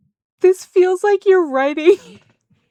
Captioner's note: laughter